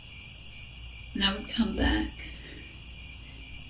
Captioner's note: crickets